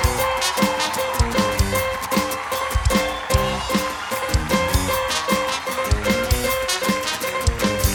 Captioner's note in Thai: ปรบมือ